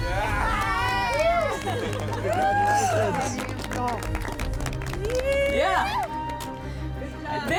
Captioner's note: clapping